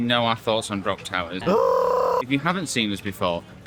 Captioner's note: indescribeable exclaimation of terror